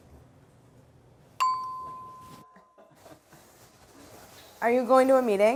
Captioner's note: elevator dings